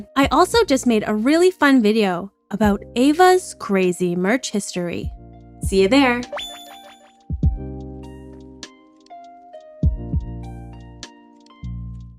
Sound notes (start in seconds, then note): 6.1 disappearing sound